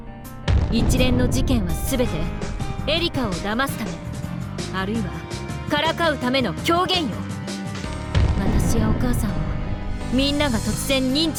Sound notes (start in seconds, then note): none